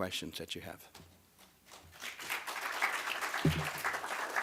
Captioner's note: applause